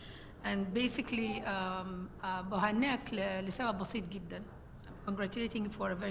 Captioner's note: speaking foreign language